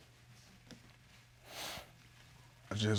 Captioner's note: inhales deeply